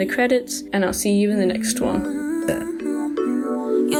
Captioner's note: burps